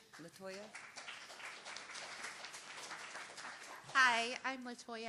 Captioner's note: applause